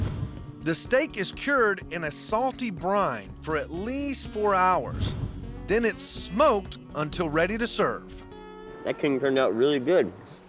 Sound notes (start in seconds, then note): none